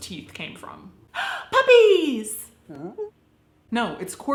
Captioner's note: dog wines; gasps